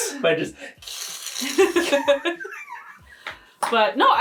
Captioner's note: imitating scraping noise